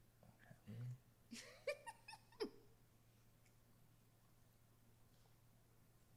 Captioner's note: laughs